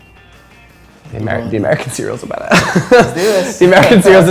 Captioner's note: laughs